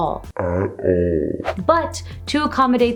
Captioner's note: slowed deep voice